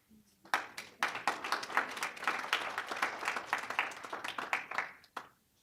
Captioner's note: applause